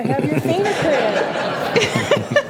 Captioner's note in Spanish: risas